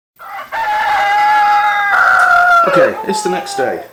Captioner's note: cock-a-doodle-do